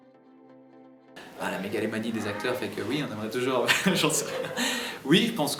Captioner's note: laugh